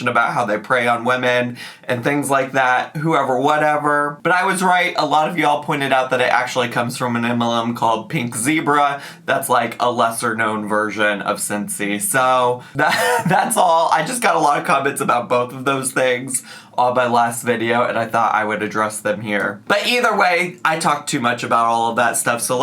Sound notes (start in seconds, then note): 12.8 laughing